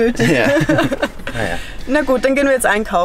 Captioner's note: laughter